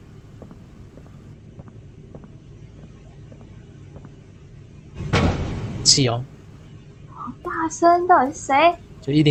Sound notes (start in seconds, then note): 5.1 1006 knocks angrily